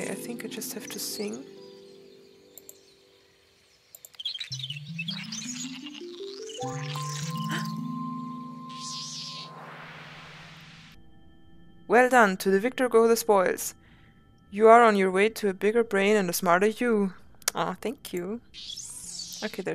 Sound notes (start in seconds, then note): 7.4 gasps